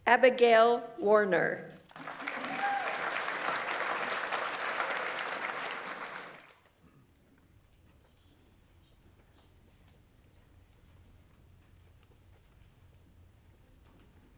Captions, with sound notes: Abigail Warner. (audience applauds) (audience member cheers)